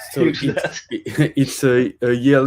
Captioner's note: laughter